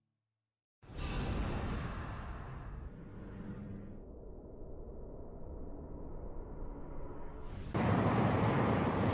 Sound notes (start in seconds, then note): 1.0 whoosh; 8.3 wind howling